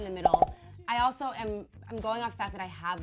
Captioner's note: popping